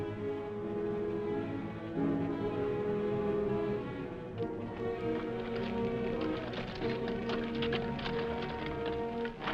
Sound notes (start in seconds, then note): 4.3 horse hooves clopping